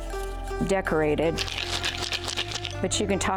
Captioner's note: plant rattles